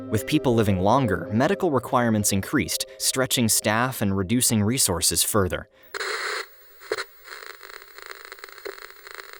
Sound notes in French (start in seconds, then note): 5.9 crépitements d’écran